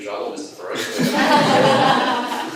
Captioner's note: laughing